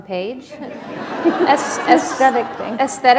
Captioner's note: laughter